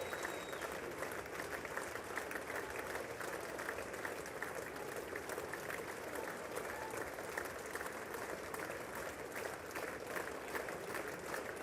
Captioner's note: cheers and applause